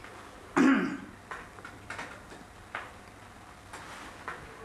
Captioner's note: The Shining coughs